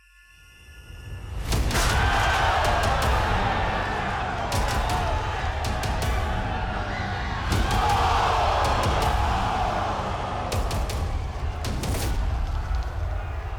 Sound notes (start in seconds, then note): 1.6 cheers and applause